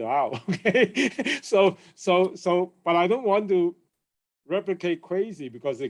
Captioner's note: chuckles